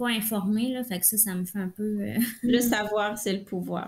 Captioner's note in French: rires